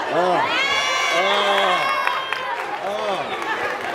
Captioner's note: audience cheers